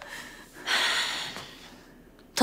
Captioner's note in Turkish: Nefes sesleri